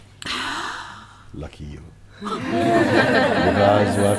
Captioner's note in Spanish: Risas